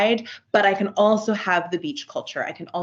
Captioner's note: none